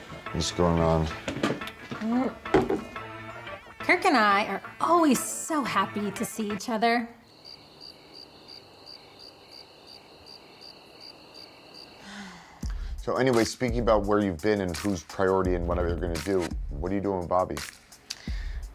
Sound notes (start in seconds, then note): 7.6 crickets chirping